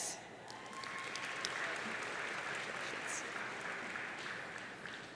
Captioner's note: audience cheering